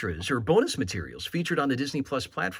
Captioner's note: chuckles